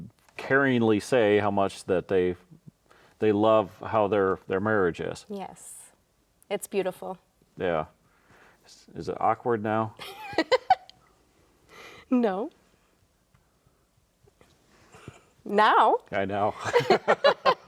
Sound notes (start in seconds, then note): 10.0 laughs; 16.5 both laughing